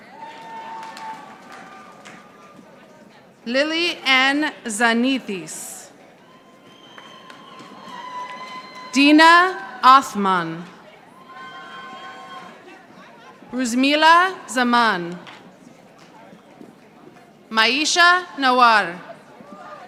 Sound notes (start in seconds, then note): 0.0 audience applauding; 6.3 audience applauding; 11.5 audience applauding; 16.0 audience applauding